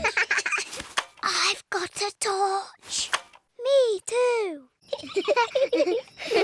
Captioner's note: whispering; both giggle